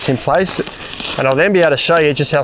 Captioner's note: metallic hammering